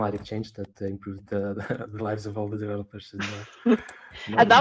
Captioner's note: laughs; laughing